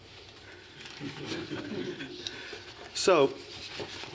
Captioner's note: laughter